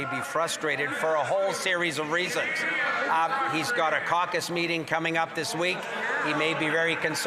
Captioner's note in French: voix de l'interprète